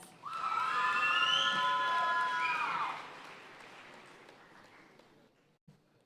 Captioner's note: audience cheering and applauding